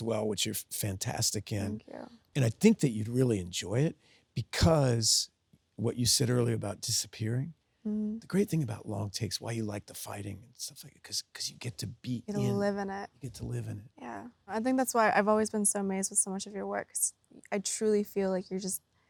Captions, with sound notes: which you're fantastic in. - Thank you. - And I think that you'd really enjoy it because what you said earlier about disappearing, (Sydney hums) the great thing about long takes, why you like the fighting and stuff like that, 'cause you get to be in, - Get to live in it. - You get to live in it. - Yeah. I think that's why I've always been so amazed with so much of your work. 'cause I truly feel like you're just,